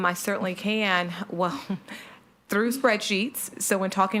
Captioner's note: laughs